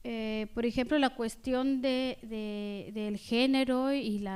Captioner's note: speaking spanish